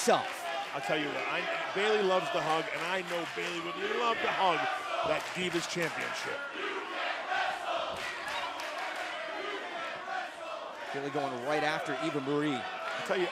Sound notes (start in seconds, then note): 6.1 fans chanting